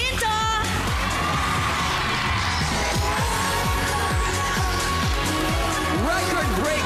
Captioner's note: audience cheering